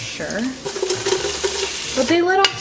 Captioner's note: pot sizzling